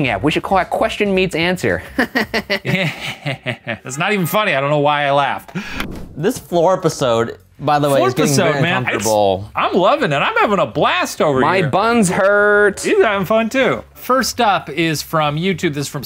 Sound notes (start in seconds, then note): 1.9 chuckles; 2.0 laughs